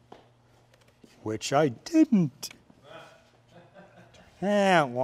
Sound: laughter

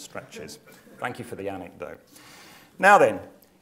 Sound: laugh

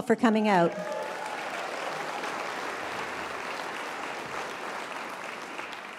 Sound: applause, cheering

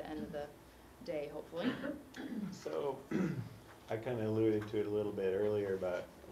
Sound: cough

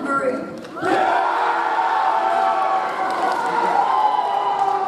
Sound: audience cheers

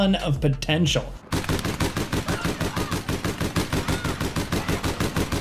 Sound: gun shooting

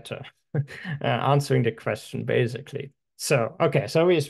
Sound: chuckling

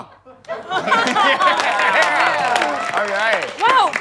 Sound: cheering and clapping

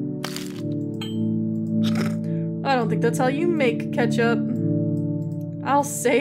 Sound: snorts

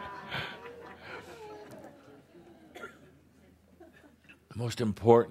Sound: laughter

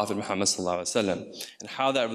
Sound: speaks in foreign language

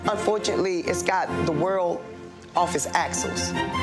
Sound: none

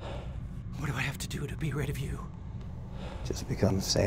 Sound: sighs

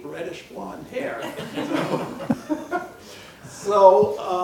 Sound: laughing

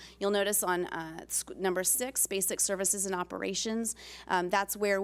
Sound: none

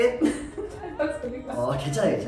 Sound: laughing at the plop sound

